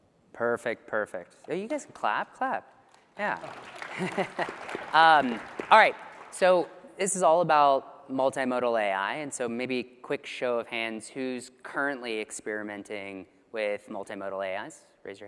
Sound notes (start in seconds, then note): 3.1 applause